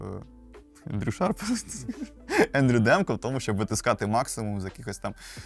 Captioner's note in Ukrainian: сміх